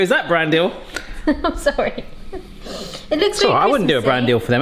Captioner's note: laughs